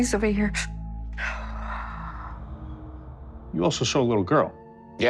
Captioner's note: sighs